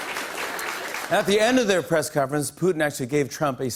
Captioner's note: laughter and applause; normal voice